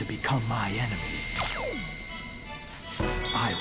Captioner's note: uplifting music; ring powers up